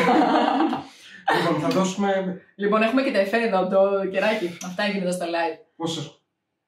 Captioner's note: laughs